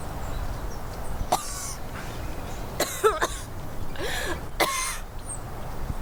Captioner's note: coughing